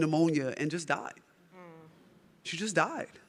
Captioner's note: audience groaning